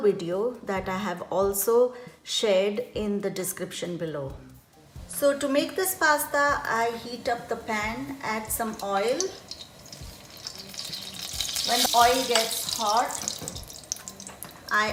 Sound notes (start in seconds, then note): 9.5 oil sizzling